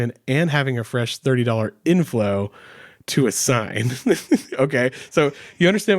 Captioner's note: laughs